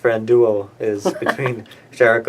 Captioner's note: laughter